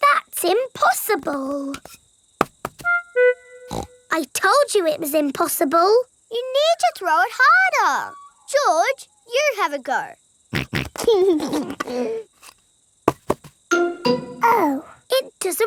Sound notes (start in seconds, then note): 3.7 snorts; 10.6 snorts and laughs